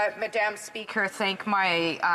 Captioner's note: speaking French